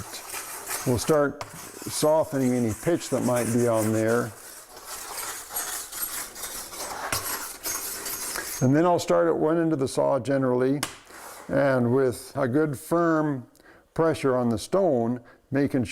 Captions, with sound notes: so that it will start softening any pitch that might be on there. [metal and stone scraping] And then I'll start at one end of the saw, generally, and with a good, firm pressure on the stone,